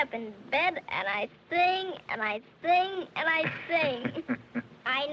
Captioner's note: laughing